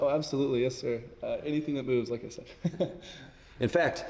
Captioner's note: chuckles